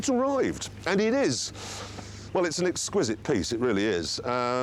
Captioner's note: gasps